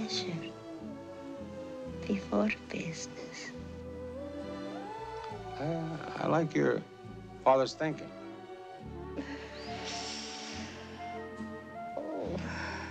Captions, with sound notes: BEFORE BUSINESS. WELL, I LIKE YOUR FATHER'S THINKING. [inhales] OH.